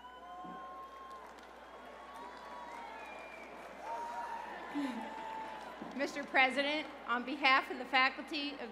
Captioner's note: cheers and applause